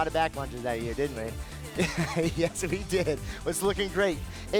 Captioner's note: laughs